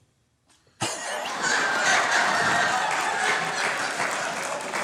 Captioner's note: crowd laughing